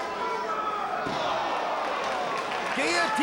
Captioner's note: spectators exclaiming